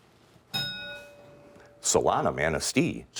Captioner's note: ding